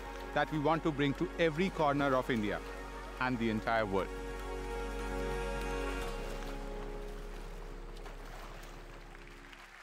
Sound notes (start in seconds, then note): 7.8 applause